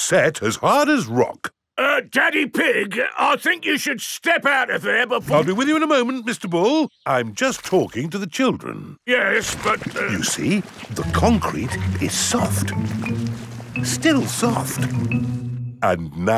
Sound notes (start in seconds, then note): 10.1 stutters